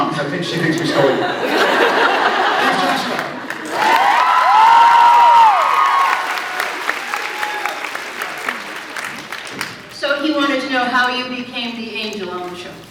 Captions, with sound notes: 'cause I think she thinks we stole you. [scattered laughs] [laughs] Here’s Joshua! [cheers, applauds] So he wanted to know how you became the angel on the show.